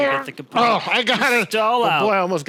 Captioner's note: grunts